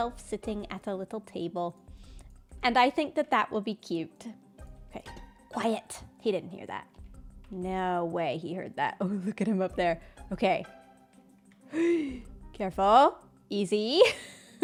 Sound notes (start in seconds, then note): 11.6 gasps